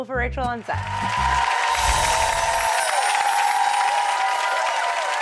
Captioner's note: audience applause